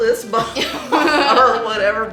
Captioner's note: laughing